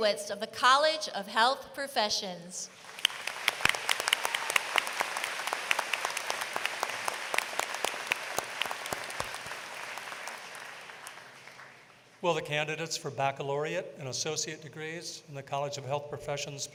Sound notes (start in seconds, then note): 2.7 applause